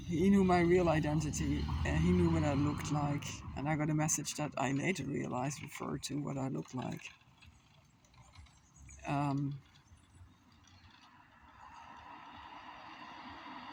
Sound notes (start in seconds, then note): 8.2 traffic noise